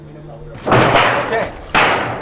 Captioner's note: metal sheet rumbles